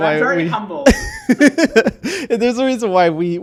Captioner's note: laughing